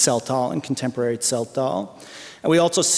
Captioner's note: non-english speech